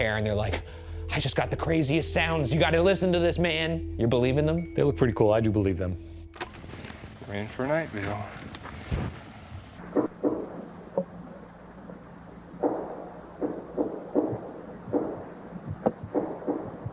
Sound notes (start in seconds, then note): 6.2 tape clicking; 9.9 mysterious banging